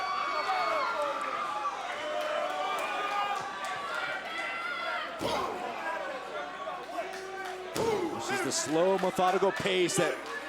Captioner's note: crowd chatter